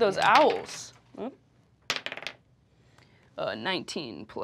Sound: die clacking

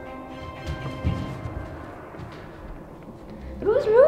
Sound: footsteps

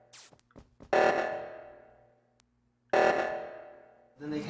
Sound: meltdown buzzer

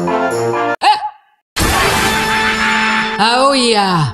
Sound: freaky train sounds

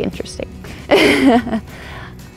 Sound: laughs

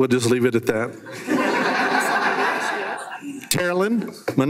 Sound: everyone laughs

